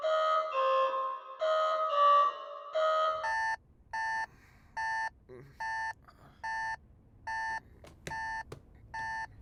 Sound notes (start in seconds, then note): 3.3 alarm clock beeping